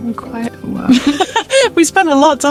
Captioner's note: laughs